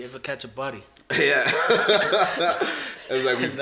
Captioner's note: laughs